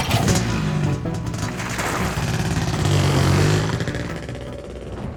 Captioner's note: motorcycle rumbles